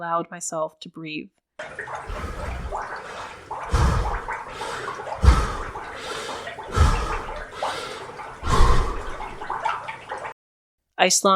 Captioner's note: faint sounds of water, drips, and frantic, shallow breathing